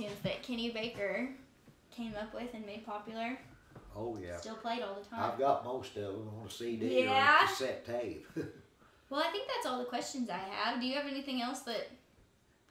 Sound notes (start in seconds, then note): 8.2 chuckling